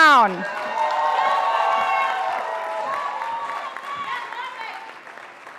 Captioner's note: audience applauding